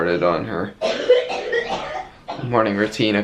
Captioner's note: coughing